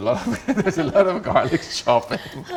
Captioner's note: both laugh